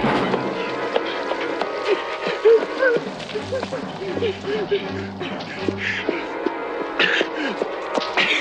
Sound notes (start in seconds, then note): 0.1 suspenseful music; 1.6 Bubba sobbing; 4.2 Bubba gasping